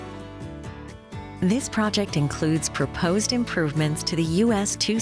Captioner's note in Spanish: Voz en off